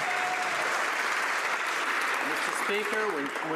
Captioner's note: some Applause